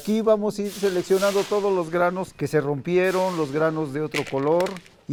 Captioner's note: speaking in foreign language